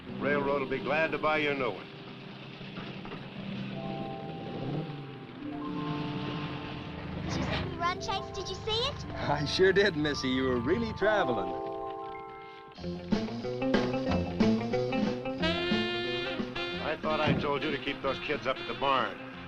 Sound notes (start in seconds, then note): 4.0 engines rumbling; 4.0 gentle music; 12.8 upbeat music